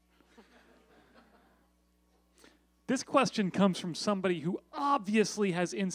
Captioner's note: laughter